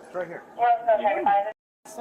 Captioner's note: radio chatter